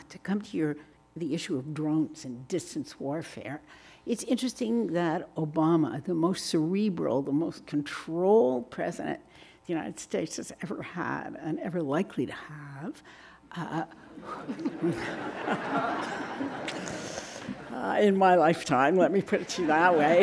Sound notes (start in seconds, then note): 14.2 audience laughing